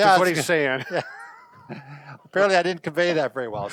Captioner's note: laughing